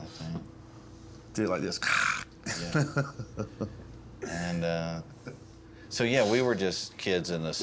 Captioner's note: laughter